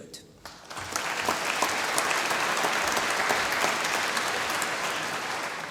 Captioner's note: applause